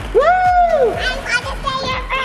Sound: balls clatter; cheers

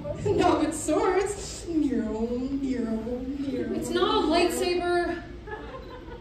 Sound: lightsaber noises

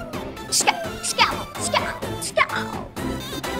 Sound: mimicking gunshots

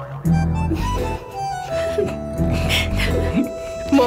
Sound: giggling

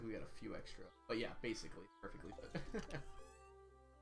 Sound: laughs

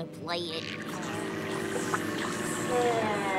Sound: buzzing

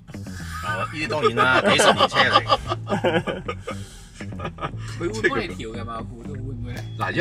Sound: laughter

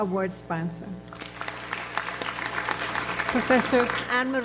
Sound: audience applauds

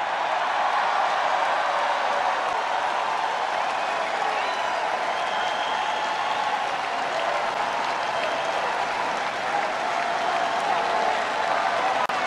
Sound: crowd cheers positively

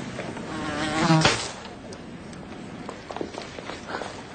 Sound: fly buzzing; electricity zaps

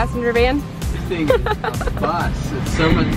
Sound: laughing

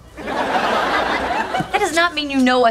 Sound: audience laughing

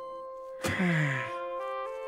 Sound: Peter sighs

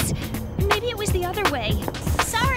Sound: gasps

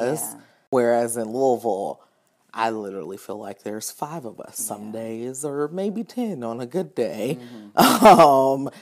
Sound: laughing

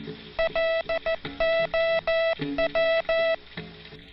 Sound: beeping

